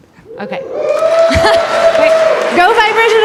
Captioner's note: audience applause